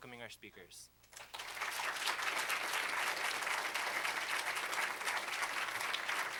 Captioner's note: applause